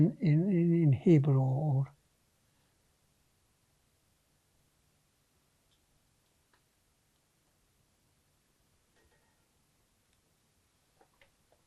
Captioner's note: pauses 13 seconds